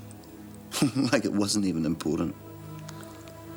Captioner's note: laughs